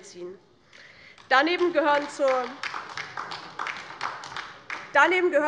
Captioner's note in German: Beifall DIE LINKE